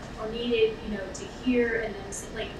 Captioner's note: none